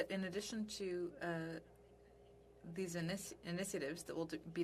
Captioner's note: speaking French